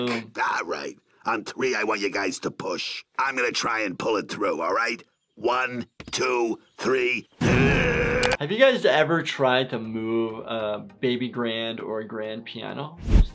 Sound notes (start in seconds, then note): 7.4 grunts